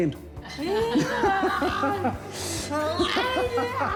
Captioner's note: all laugh